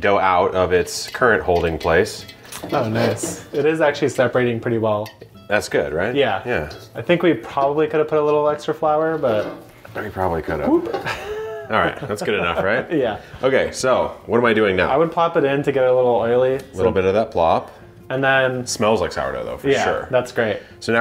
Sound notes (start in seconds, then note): 10.8 laughing